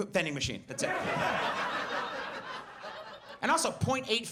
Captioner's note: audience laughs